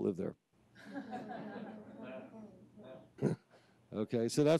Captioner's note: audience laughs